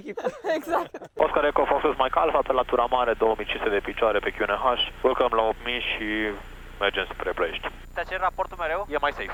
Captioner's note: radio chatter